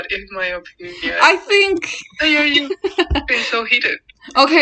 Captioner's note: laughs